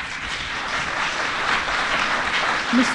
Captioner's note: applause